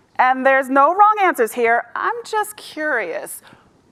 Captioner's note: none